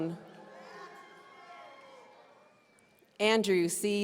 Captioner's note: audience cheering